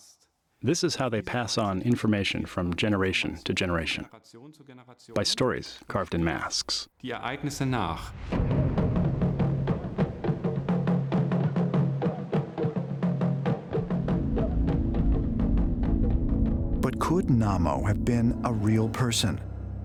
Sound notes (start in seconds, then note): 6.8 non-english speech; 8.9 ritual music